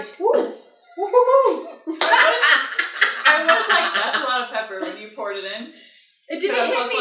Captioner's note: laughs